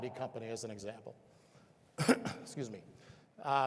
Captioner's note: clears throat